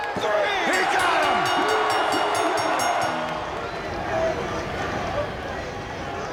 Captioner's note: bell rings